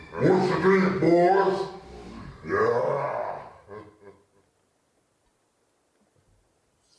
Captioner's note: evil laughter; laughter